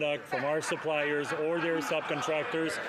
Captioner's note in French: voix de l'interprète